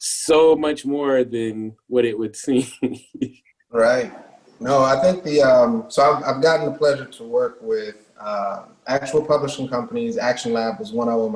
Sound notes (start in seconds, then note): 2.5 laughs